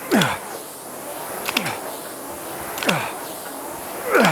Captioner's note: grunting